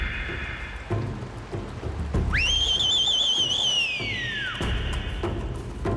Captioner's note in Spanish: Silbido